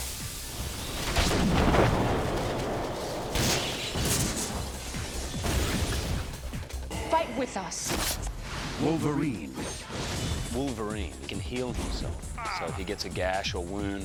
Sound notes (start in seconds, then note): 1.0 thunder crashing